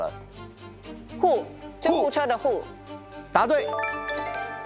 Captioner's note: ambulance